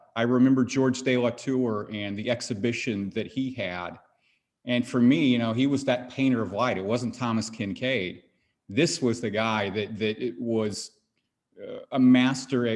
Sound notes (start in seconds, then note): none